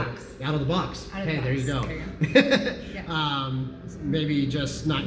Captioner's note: laughs